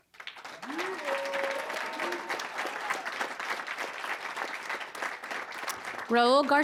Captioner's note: audience cheering